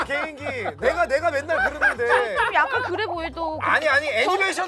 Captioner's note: dying of laughter; dying of laughter